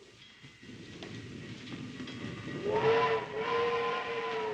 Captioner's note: train whistle in distance